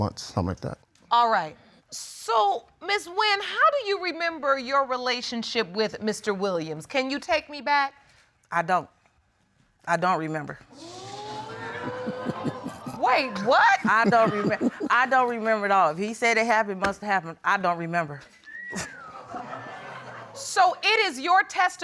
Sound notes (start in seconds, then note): 10.8 audience exclaiming; 11.2 chuckling; 18.3 woman whistles lightly; 18.7 audience chuckles